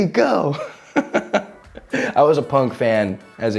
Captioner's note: chuckles